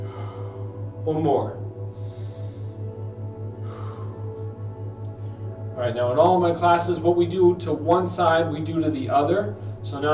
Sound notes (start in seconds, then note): 0.0 exhales; 3.4 inhales; 3.5 exhales